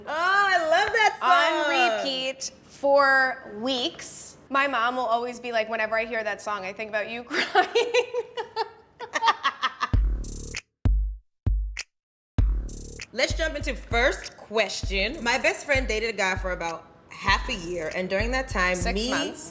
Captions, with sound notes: - Oh, I love that song. - On repeat for weeks. My mom will always be like "Whenever I hear that song, I think about you crying." (both laughing) (uptempo beat) - Let's jump into the first question. "My best friend dated a guy for about half a year "and during that time-- - Six months.